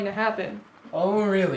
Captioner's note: phone buzzing